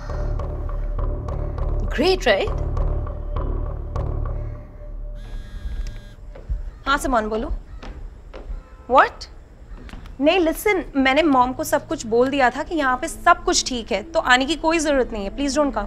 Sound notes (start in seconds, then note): 5.2 phone vibrating